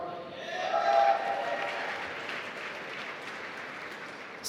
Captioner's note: applause